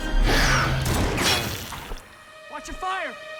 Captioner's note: bullet clangs